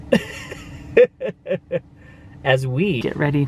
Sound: laughing

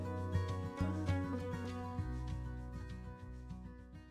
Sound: jovial camp sounds

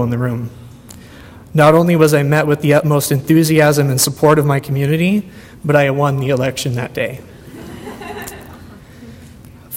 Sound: audience laughter

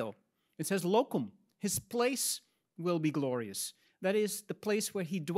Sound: speaks in Latin

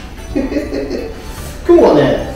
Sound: laughs

